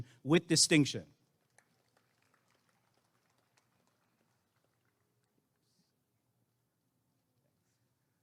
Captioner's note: applause and cheering